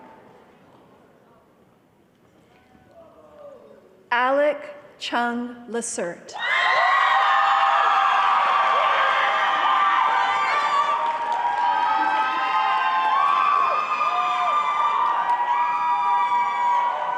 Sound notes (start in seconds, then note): 6.4 cheering and applause